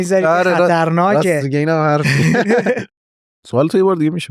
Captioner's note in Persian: خنده